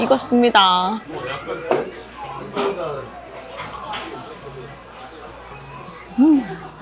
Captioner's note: blowing on it before taking a bite